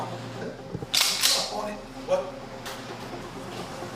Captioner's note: shotgun pumps